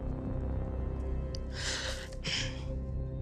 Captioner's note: breath trembles